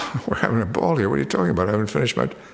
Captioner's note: chuckles